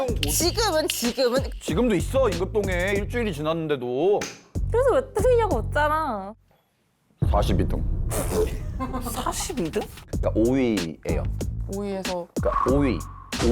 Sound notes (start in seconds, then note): 8.0 fart sound effect